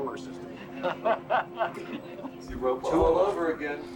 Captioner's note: laughing